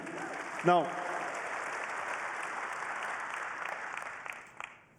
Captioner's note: applause